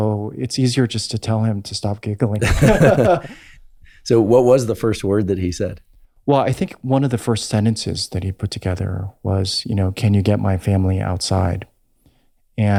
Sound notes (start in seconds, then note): 2.4 Andrew laughs; 2.4 laughs